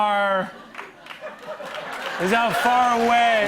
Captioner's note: laughter and applause